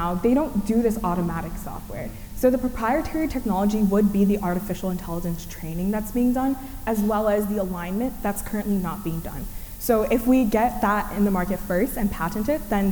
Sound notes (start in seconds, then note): none